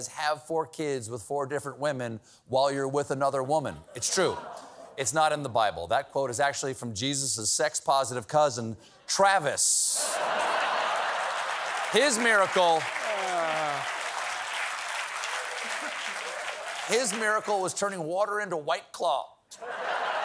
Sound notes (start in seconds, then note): 10.0 laughter; 19.5 laughter